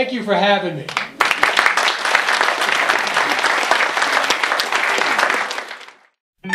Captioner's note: audience Applauds